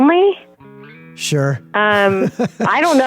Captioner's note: laughs